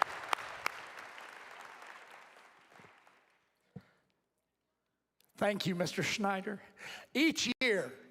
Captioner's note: applause